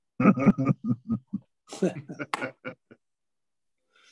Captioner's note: chuckling